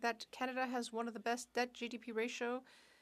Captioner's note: speaking French